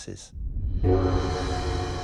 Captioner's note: dong